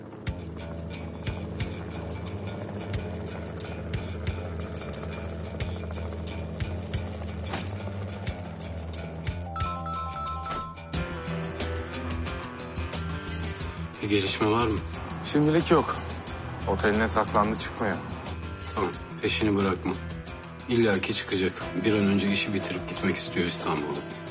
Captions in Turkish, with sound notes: [gerilim müziği] [telefon çalar] -Bir gelişme var mı? -Şimdilik yok. Oteline saklandı, çıkmıyor. Tamam, peşini bırakma. İllaki çıkacak. Bir an önce işi bitirip gitmek istiyor İstanbul'dan.